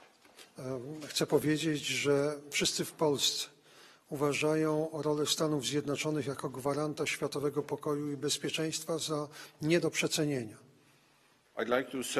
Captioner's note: speaking polish